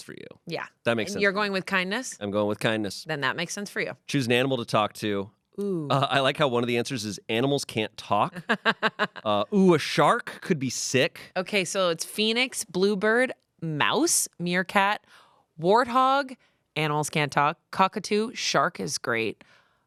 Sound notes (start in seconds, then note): 8.3 Amanda laughs